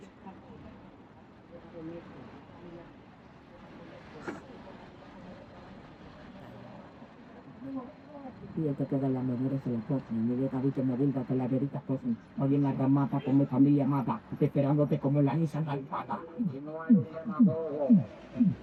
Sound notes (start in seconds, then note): 4.7 speaking in foreign language